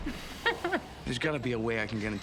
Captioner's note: chuckles